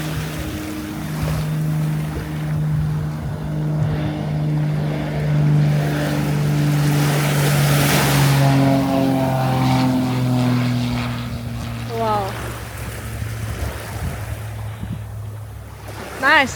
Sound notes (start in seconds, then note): 1.8 plane